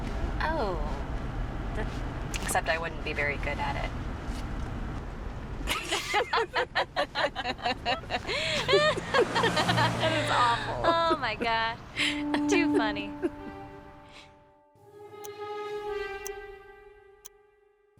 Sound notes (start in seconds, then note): 5.6 laughter!; 12.1 spooky music